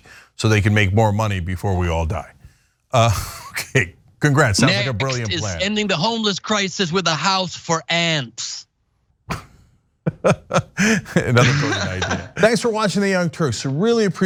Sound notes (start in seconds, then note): 10.0 laugh